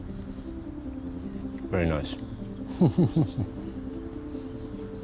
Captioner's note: chuckling